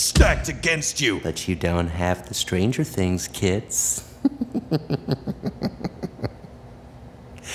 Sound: giggles

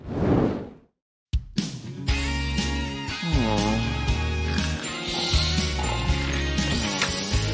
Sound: snoring

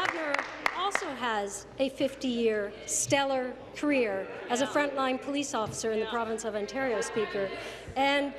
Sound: applause

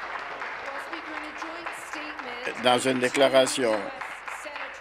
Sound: applause

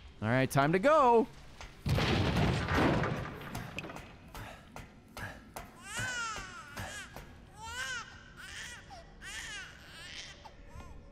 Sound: baby crying

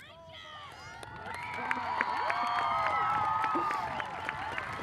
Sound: audience cheers and applauds

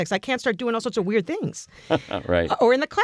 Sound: laugh

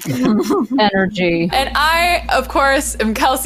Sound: laughing

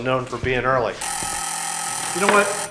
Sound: door buzzes

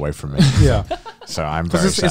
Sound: laughing

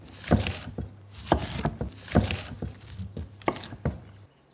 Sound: knife chopping

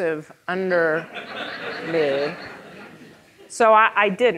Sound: audience laughing

